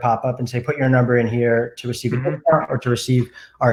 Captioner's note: murmurs